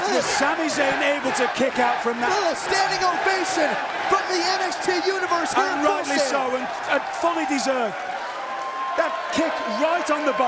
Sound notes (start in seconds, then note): 3.9 fans chanting